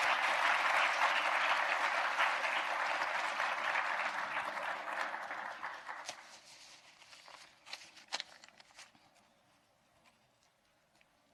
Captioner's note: applause